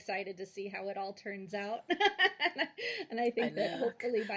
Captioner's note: laughs